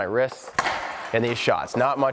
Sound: puck slaps

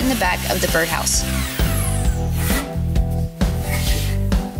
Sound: saw buzzing

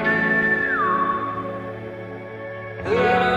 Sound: whistling

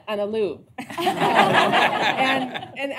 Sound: laughter

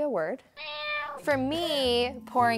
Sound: cat meows

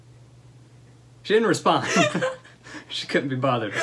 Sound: laughter

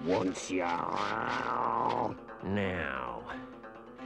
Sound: Chief Weasel growls

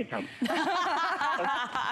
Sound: laughter

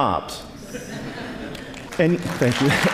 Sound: laughter; applause

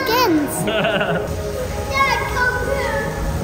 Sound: dad laughing

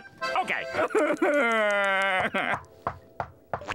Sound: crying

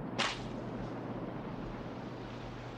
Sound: papers snap; surf crashes

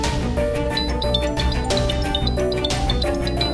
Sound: phone ringing

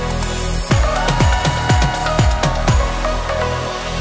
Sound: cheering

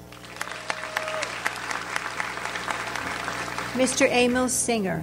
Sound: audience applauds

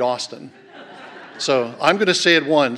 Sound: laughter

